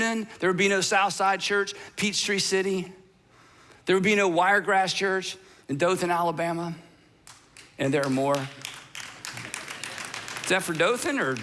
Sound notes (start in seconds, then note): 7.2 audience clapping